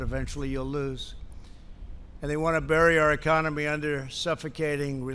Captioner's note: none